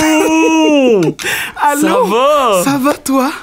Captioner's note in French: rires